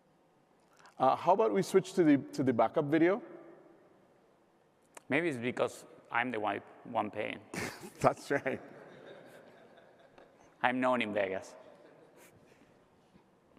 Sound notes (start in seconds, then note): 9.4 laughter